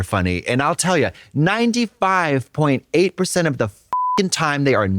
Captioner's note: beep